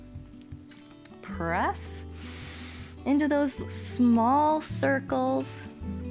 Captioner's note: inhales